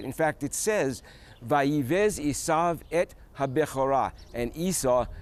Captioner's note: speaking hebrew